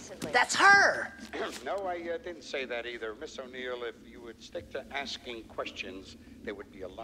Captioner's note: clears throat